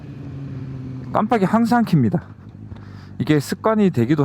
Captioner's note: turn signals